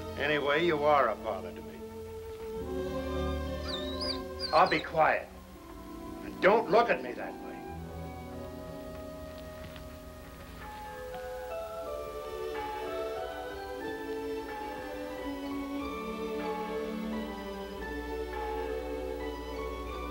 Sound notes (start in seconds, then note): 2.7 melancholy music; 3.5 Shep whines